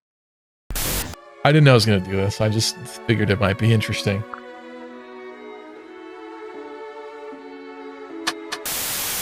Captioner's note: blows air